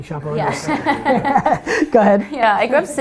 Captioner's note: group laughter